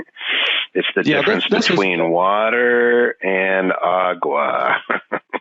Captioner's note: laughing